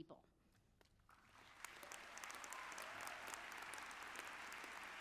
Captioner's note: audience applauds